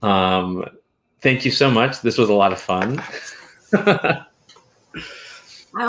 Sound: laughs

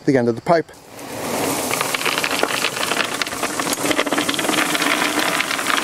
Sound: gravel shuffling and clinking

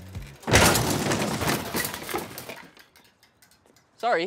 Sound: crashing sounds

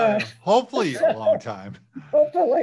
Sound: laughs

